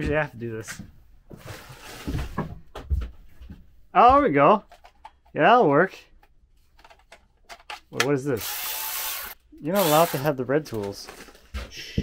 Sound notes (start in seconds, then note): 8.3 tool whirring